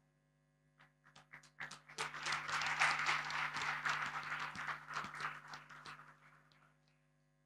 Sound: applause

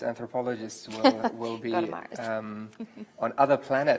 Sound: laughs

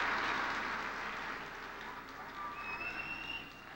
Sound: light applause

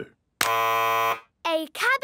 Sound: buzzes

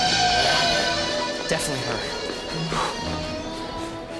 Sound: exhales

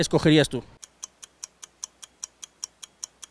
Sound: clock ticking

